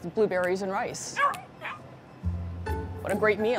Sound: dog whining

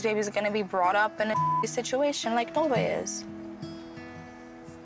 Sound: beep

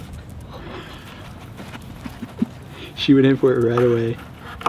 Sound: Zoey sniffs

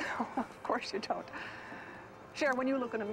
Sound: chuckling

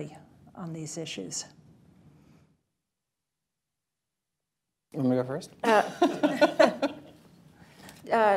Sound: laughter

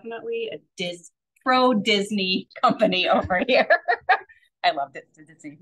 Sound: laughs

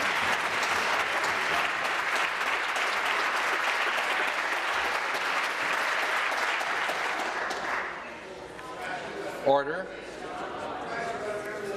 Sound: applause

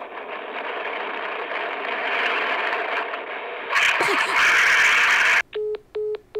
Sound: mega woosh

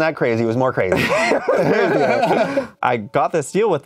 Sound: both laugh

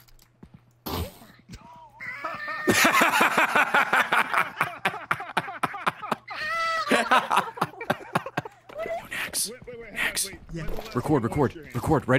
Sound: laughs

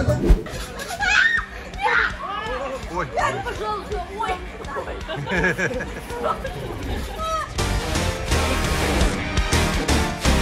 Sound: shouting

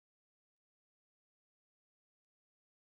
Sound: none

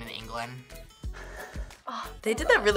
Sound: laughs

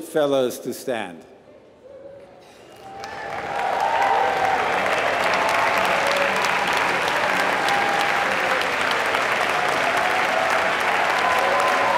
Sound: applause

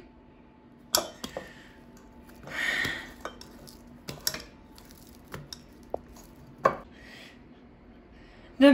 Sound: mashing

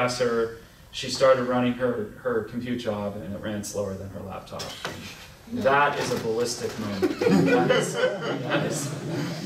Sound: laughter

